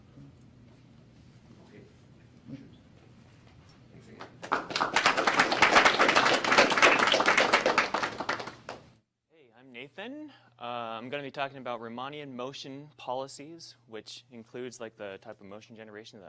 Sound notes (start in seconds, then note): 4.2 applause